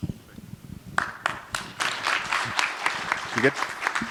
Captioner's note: applause